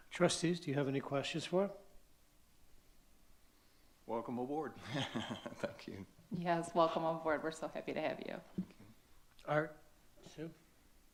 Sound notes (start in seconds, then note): 4.7 laughs